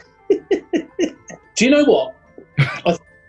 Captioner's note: giggling; chuckling